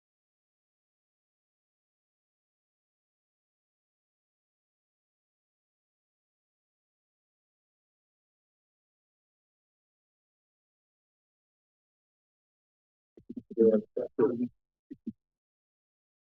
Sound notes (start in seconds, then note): 0.0 silence; 2.6 silence